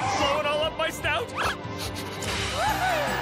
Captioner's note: sniffing